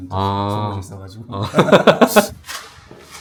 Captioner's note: both chuckles